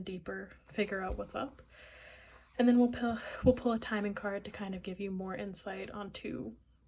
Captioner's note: breathes